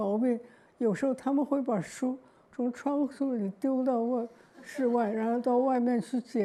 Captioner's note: audience laugh